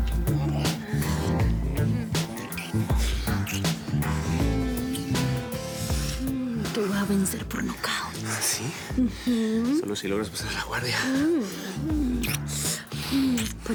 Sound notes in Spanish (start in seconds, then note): 4.7 Ruido de besos; 12.0 Sonido de besos